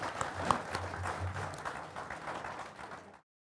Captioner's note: applauding